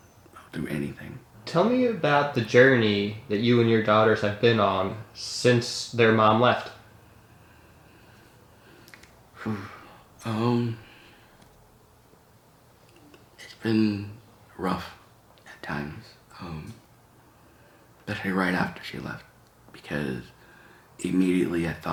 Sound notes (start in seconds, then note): 9.4 exhales